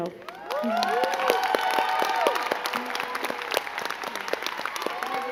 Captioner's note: crowd cheering and clapping